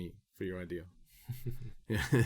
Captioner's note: laughing